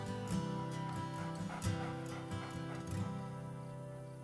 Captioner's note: coyote panting